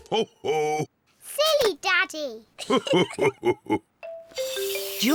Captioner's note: both laugh